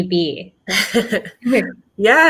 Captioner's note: laughs